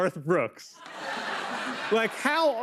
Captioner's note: laughter